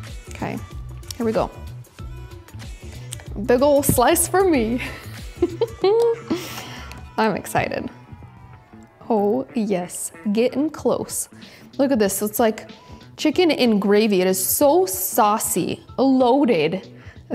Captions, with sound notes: Okay. Here we go. Big old slice for me. (laughs) I'm excited. Oh yes, getting close. Look at this. It's like chicken in gravy. It is so saucy and loaded.